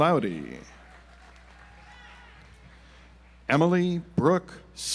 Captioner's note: audience applauds